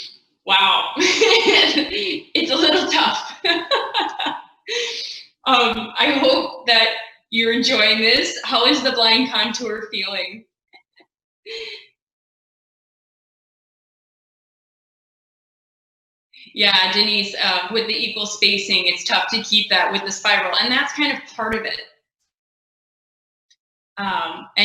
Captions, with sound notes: Wow. [Laughing] It's a little tough. [Laughing] I hope that you're enjoying this. How is the blind contour feeling? Yeah, Denise with the equal spacing, it's tough to keep that with the spiral, and that's kind of part of it.